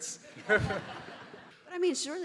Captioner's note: audience laughing